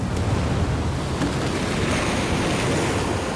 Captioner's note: water rushing